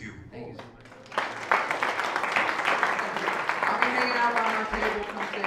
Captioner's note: applause